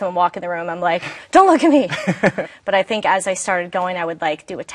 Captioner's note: laughs